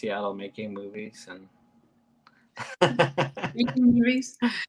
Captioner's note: chuckles